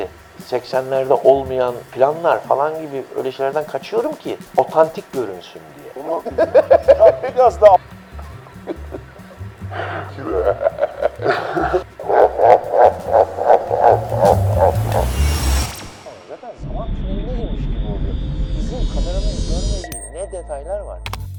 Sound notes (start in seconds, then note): 6.0 laughs; 15.6 TV turning off sound